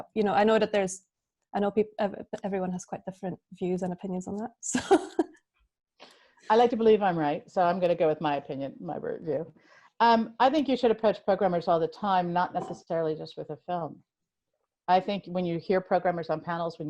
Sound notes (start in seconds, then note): 4.4 laughs